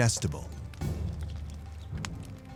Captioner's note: fire crackling